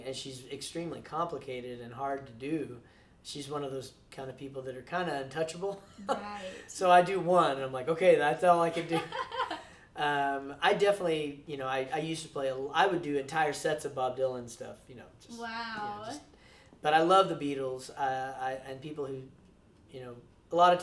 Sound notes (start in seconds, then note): 5.8 chuckles; 8.7 laughs